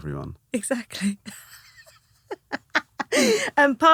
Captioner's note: laughing